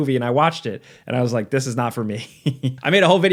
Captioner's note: laughs